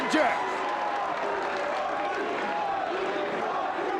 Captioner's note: audience cheers